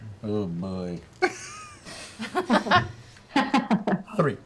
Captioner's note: laughter